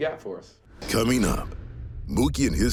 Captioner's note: air whooshing